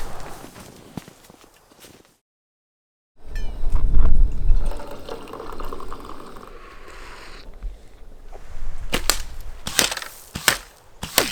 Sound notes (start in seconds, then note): 4.5 water pouring; 6.8 sipping coffee